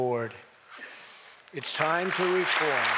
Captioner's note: applause